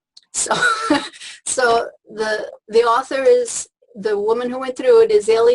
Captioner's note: laughs